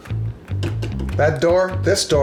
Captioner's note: door taps